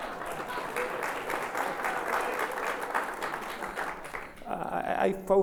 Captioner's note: laughs; audience laughs and applauds